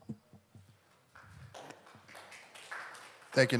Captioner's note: audience Applauding